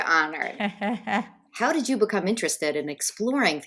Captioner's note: laughing